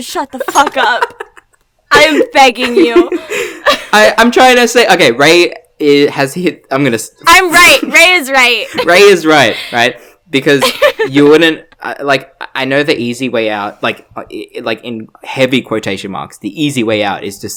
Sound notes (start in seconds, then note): 2.6 laughs; 10.6 laughs